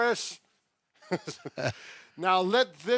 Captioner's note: chuckling